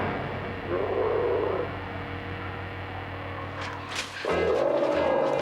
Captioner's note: dinosaur roaring